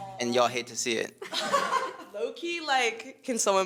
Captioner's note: all laughing